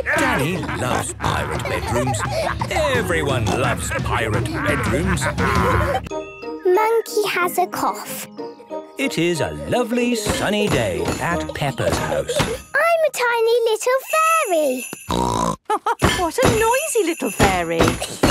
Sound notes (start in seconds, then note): 0.0 laughter; 15.1 snort; 15.6 laugh